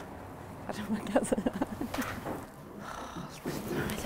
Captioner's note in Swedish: skrattar